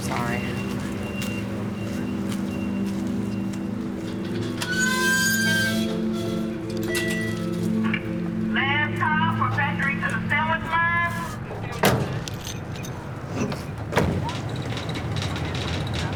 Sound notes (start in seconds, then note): 6.0 gate creaking; 11.4 doors slam shut